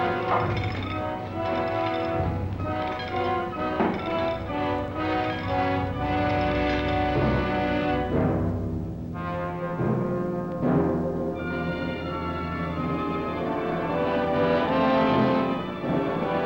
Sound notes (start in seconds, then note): 0.0 chain clinks